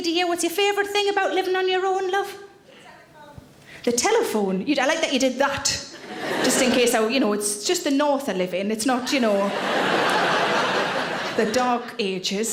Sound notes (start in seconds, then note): 9.1 audience laughter